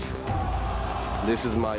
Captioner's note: cheers and applause